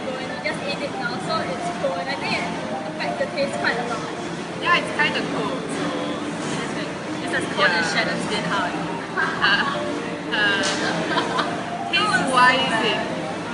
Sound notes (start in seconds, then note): 8.7 laughter ensues